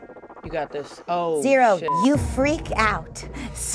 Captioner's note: beep